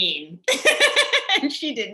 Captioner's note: laughs loudly